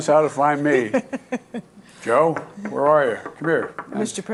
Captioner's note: laughter